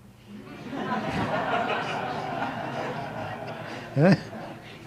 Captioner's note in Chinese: 全場笑